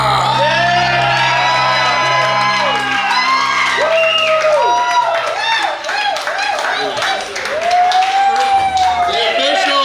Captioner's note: cheering & Clapping